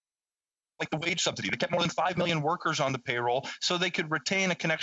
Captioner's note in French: voix de l'interprète